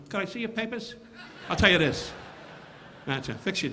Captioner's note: audience laughing